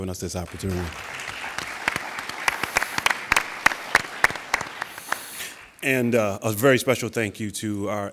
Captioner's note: applauding